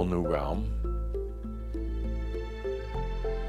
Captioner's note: none